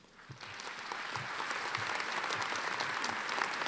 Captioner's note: applause